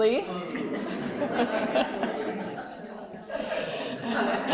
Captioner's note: laughter